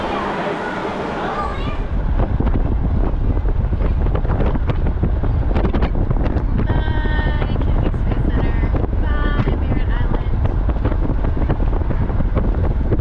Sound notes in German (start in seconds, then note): 5.8 Wind weht